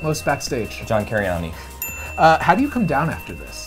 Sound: bell dings

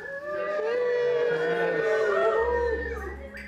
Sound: group cheering

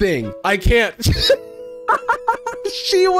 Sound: laughs

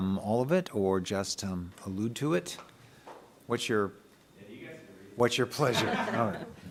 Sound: laughter

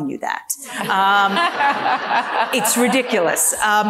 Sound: audience laughing

